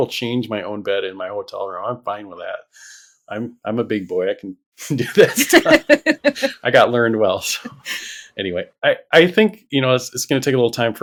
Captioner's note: laughter